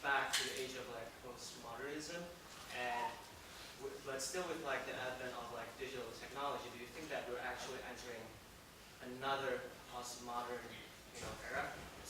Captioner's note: away from microphone